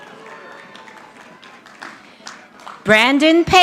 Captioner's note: audience applauding